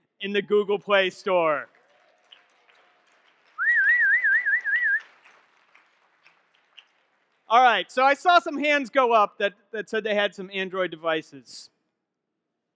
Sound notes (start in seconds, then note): 0.9 audience clapping; 3.6 whistling